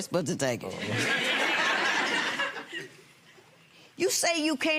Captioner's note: audience laughing